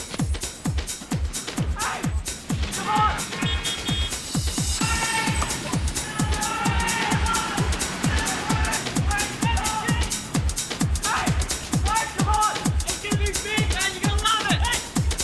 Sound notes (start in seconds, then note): 0.3 suspenseful music; 4.7 horns honking; 4.8 John and Gene shouting